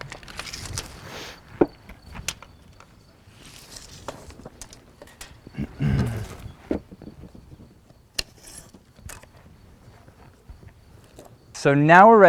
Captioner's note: metal tape measure scraping on wood